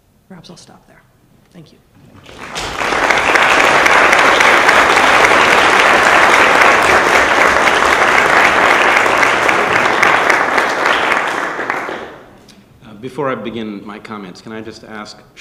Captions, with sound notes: Perhaps I'll stop there. Thank you. (audience applause) - Before I begin my comments, can I just ask,